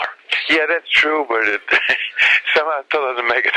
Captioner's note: laughs